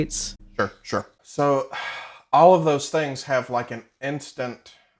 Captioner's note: sighs